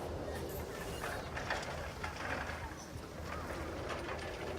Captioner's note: chairlift rattling